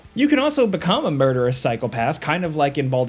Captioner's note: none